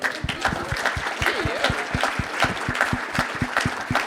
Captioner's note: audience applauding